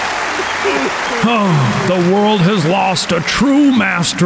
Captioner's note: breaths deeply